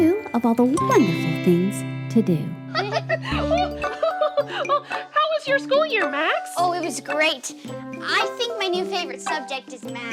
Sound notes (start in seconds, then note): 2.7 Max and Blueberry laughing